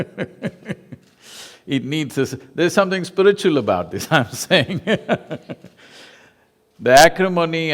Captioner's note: laughs; laughs